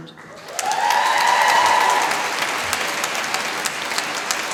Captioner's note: applause